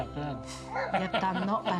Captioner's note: laughs